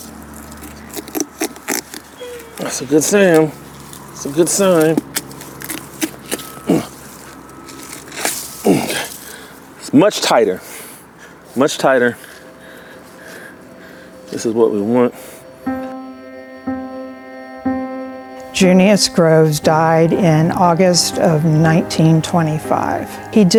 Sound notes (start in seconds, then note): 1.3 knife scraping; 5.7 knife scraping; 7.8 watermelon splitting; 15.2 pensive music